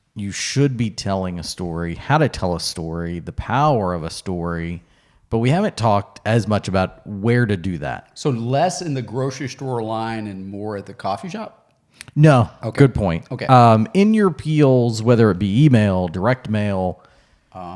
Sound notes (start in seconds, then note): none